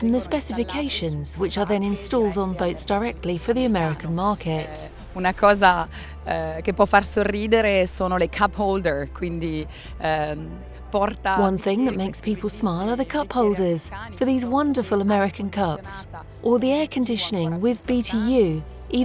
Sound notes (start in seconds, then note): 5.2 in foreign language